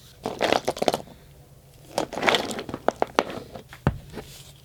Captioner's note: rattling and scraping